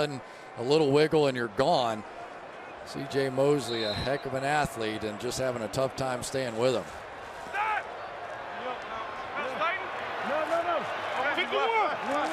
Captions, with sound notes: And all of a sudden, a little wiggle, and you're gone. CJ Mosley, a heck of an athlete, and just having a tough time staying with him. [shouting]